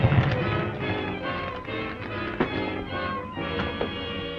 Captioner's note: fire crackling; suspenseful music